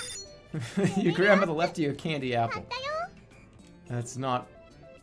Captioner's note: chuckles